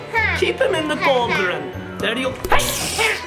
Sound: spider plops; child laughing

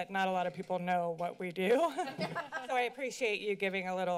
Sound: laughter

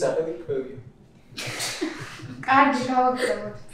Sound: laughing

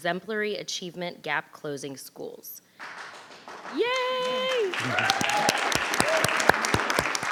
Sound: applause

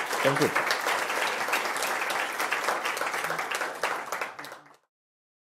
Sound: applause

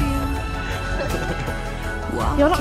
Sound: laughing

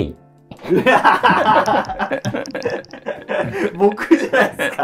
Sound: laughing

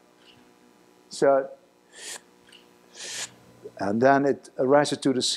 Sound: sucking inhalations

